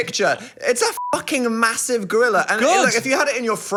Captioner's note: beep